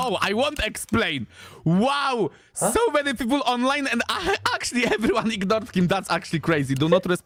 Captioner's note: laughter